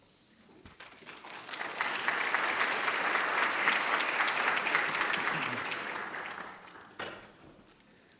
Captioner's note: applause